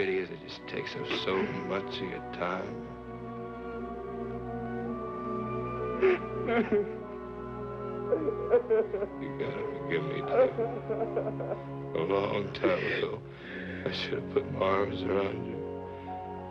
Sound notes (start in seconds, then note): 6.0 David crying; 12.6 gentle classical music